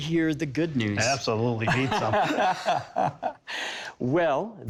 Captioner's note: laughing